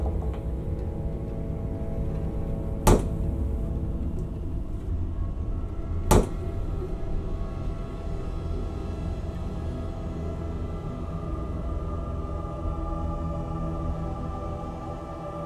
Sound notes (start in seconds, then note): 0.1 thud; 6.1 thud; 7.4 foreboding music